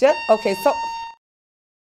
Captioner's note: fire alarm